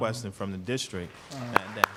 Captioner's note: applause